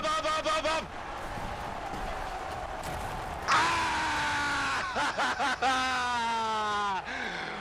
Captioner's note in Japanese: 喝采